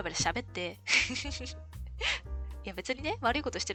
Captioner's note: laughs